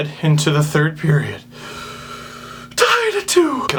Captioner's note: nervous inhale